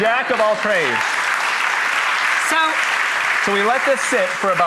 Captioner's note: applause